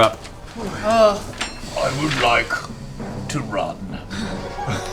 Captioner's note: Grog voice